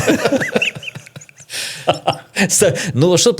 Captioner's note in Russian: смех